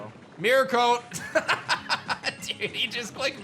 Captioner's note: laughs